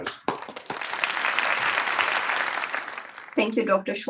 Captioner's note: crowd applauding